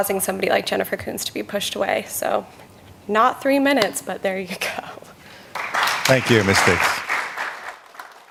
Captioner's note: applause